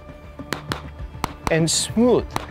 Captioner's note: pistol firing